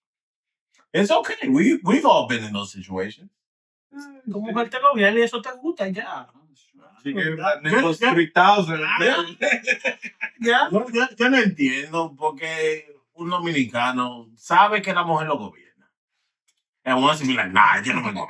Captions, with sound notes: It's okay, we've all been in those situations. (Speaking In Foreign Language) She gave my niggas 3,000. (Laughing) (Speaking In Foreign Language)